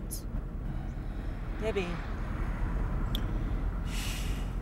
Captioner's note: sullen sigh